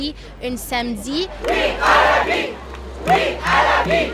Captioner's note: crowd